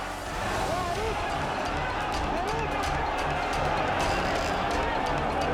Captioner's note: group chattering angrily